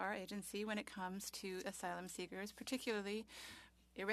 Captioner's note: speaking French